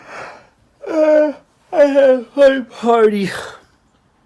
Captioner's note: bostezando